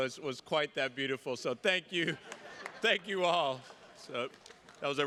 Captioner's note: attendees laughing